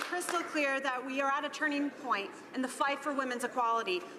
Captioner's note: some Applause